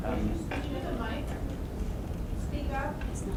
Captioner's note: voiceover